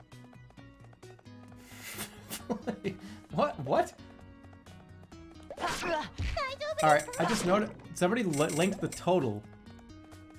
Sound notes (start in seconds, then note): 1.8 holding out laugh